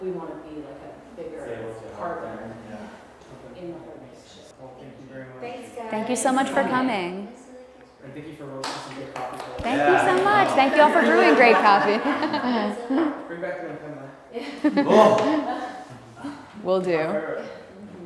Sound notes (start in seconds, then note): 9.2 applause; 13.3 laughter